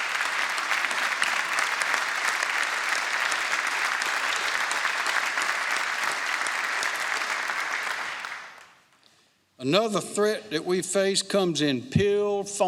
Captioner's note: applause